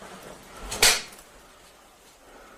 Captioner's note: snapping of knife